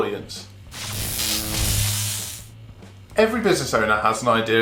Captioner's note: electric buzz